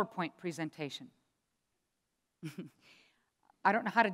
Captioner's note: chuckles